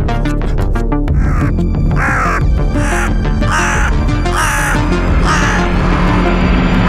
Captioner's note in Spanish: Graznido de cuervo